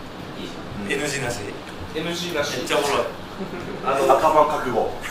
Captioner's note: laughs